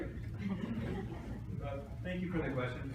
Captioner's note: laughter